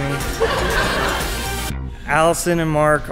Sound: laughing

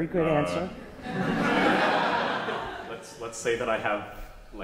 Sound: class laughs

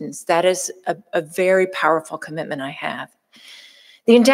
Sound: none

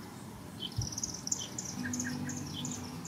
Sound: bird tweeting; gentle music

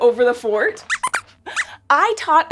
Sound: squeaks squeaks

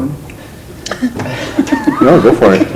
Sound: laughter

